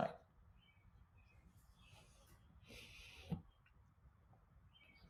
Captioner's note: birds chirping